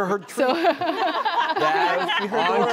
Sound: audience laughing

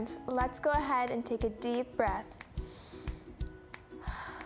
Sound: breathes heavily

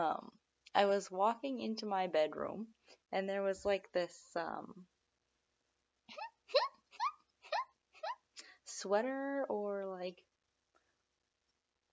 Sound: squeak

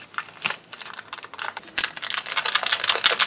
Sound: more rusting of plastic

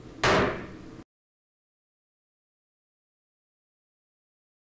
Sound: gavel bangs

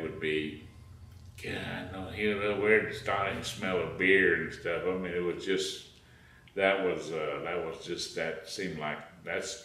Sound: grumbling

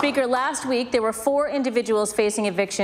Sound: applause

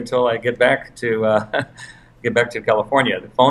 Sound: laugh

